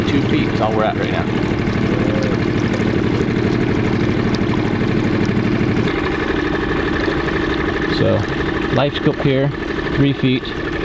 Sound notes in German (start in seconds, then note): 2.6 Bootsmotor rumpelt